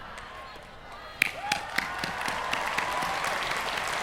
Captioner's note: applause